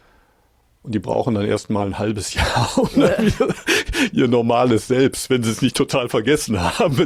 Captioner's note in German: gelächter; gelächter